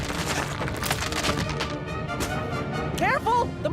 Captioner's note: crackling